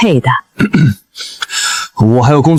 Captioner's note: cough